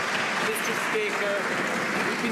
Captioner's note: some Applause